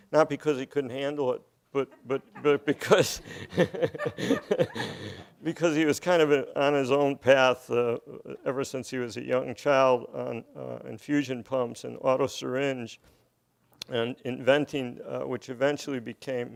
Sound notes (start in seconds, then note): 3.3 laughing